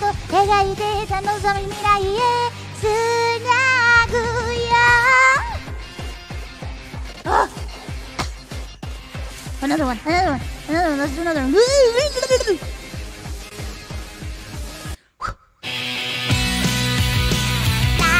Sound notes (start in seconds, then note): 8.2 cough; 13.0 gremlin noises